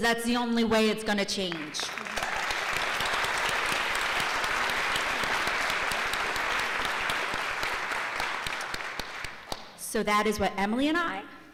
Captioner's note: applause